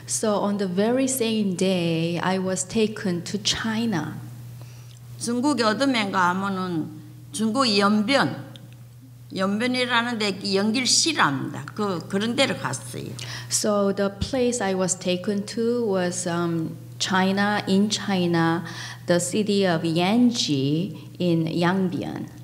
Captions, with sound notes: So on the very same day, I was taken to China. (speaking foreign language) So the place I was taken to was China, in China, the city of Yangchi in Yangbyan.